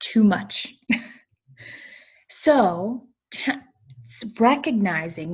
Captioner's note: laughter